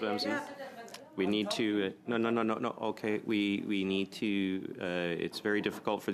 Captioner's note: mixed voices